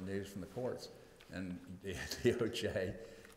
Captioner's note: laughs